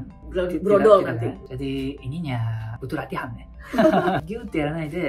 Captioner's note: laughs